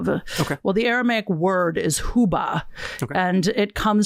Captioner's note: speaking in a foreign language